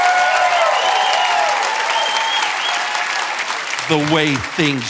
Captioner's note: audience cheering and applauding